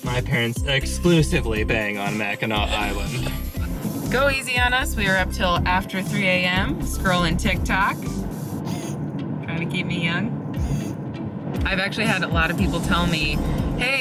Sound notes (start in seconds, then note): 8.6 camera lens whirring